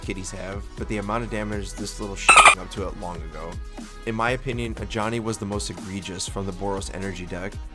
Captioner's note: dolphin Sound